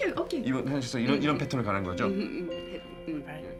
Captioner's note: speaking Korean